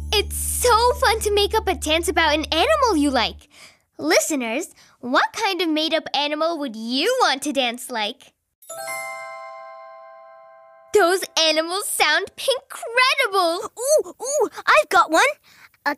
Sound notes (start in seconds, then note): 8.6 bells chiming